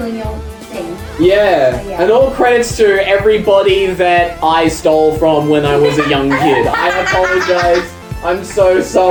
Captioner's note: laughs hysterically